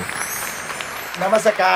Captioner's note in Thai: ปรบมือ